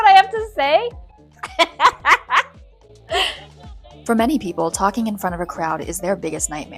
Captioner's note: laughs